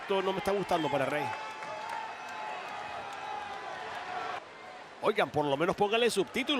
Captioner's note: applause